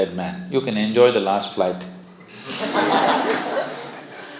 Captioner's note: laughter